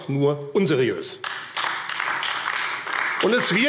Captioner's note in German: Beifall AfD